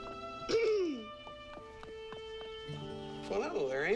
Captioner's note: Amy clears throat